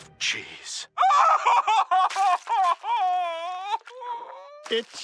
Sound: crying

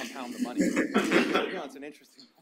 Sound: audience laughs

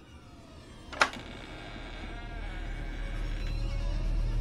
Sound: door creaking

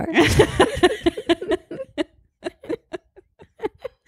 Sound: both laugh

